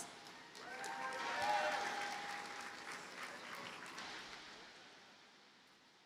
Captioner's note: audience cheers and applauds